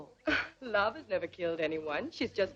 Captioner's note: scoffs